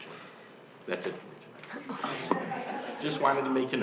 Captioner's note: laughing